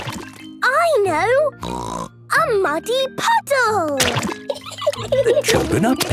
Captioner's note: laughing